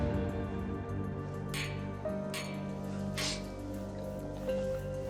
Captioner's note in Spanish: chocan los vasos